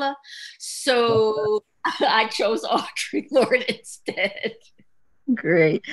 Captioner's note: chuckles